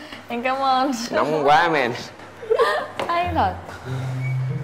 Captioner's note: laugh